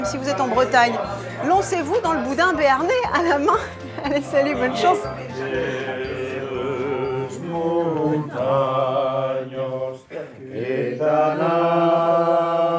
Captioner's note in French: chant